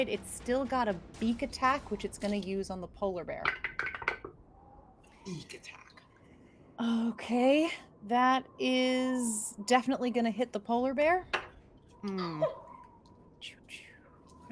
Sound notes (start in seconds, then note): 3.8 dice rolls; 12.1 bird cheeps